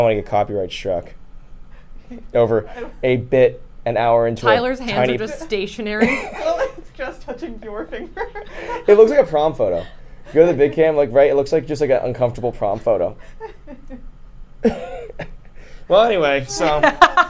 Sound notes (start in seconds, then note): 13.3 laughs